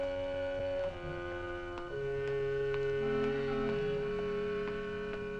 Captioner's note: footsteps clacking